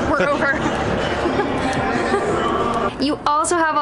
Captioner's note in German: Lachen